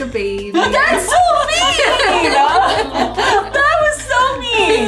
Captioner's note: women laughing